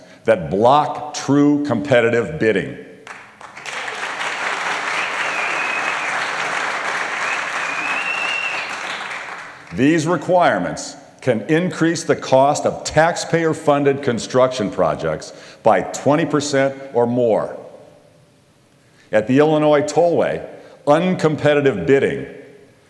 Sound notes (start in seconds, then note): 6.9 whistling; 7.2 applause